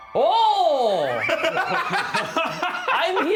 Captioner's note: laughing